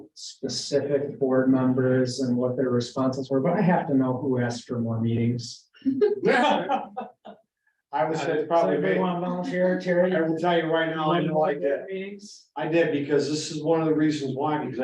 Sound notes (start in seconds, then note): 5.9 laughter